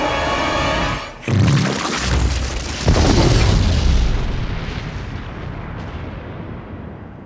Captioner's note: explosion blasts; goo splatters